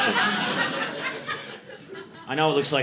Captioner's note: audience laughing